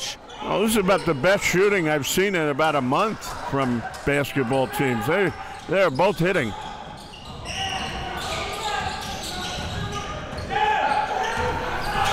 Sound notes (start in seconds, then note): 7.6 crowd cheering